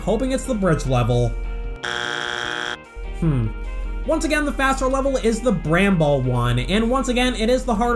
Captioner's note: bzzt